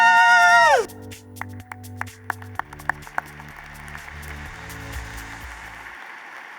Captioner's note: applause